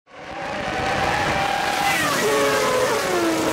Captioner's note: engine sound